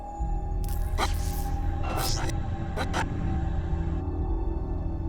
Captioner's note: eerie music; electricity crackling